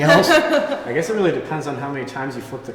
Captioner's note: laughter